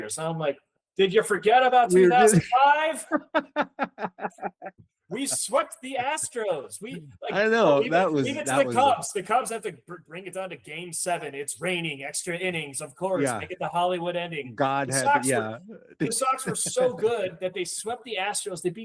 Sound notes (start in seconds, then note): 4.7 laughing